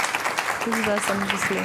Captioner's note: audience applause